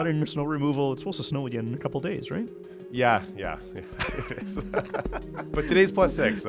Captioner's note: laughs